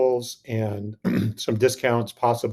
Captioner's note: clears throat